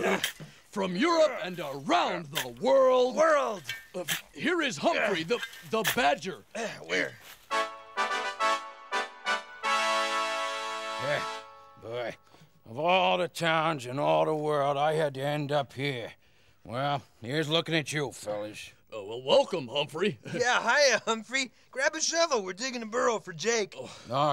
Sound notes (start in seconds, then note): 0.0 groans; 7.4 horns blowing